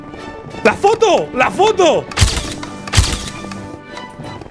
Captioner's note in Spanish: Disparador de cámara